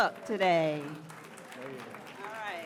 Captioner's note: audience clapping